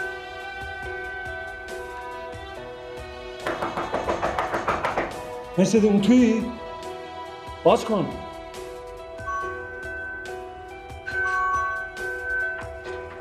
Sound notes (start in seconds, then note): 3.4 door knocking; 9.2 doorbell ringing